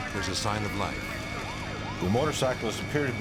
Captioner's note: siren wailing